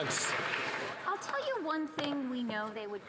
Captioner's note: some Applause